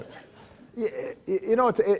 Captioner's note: laughs